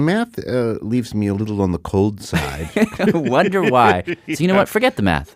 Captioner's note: laughs